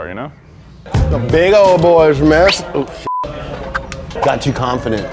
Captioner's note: beep